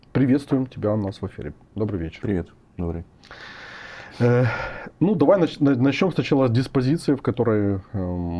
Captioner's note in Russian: вздыхает